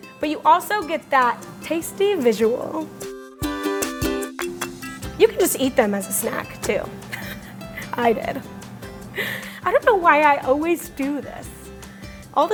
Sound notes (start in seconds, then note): 3.5 upbeat music; 7.0 laughs